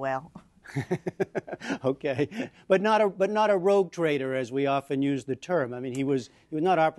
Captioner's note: laughter